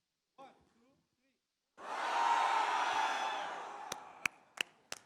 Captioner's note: audience screams; audience claps